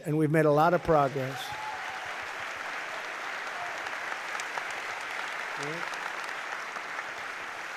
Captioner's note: applause